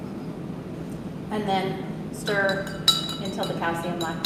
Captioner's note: glass clinking